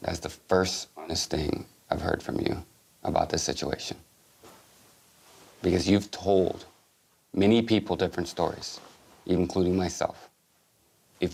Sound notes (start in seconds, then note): none